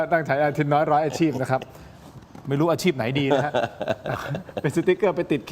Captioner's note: laughs; laughs